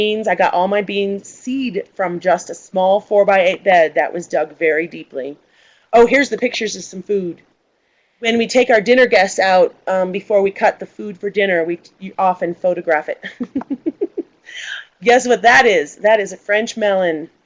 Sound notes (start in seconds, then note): 13.3 laughs